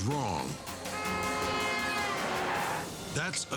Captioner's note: horn roaring